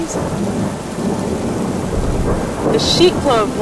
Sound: thunder and rain

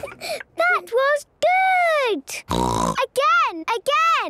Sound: snorting

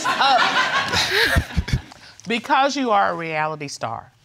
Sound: all laughing

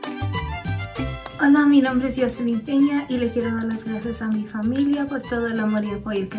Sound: speaks in foreign language

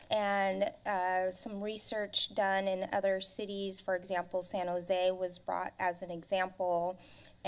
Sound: none

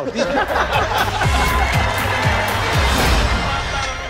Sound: all laugh; applause

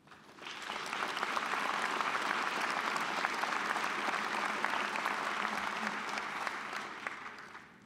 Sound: applause

